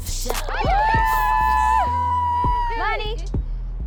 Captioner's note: cheering